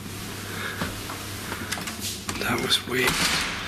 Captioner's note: none